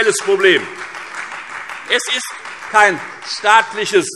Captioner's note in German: Beifall Freie Demokraten